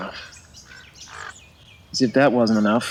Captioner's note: sighs; bird cawing